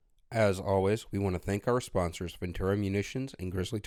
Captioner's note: voiceover